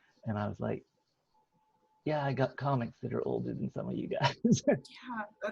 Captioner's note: laughs